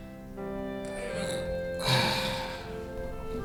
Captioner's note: manny uncomfortably exhales